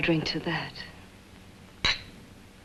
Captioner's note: glasses clink